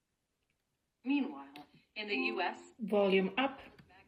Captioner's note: device chimes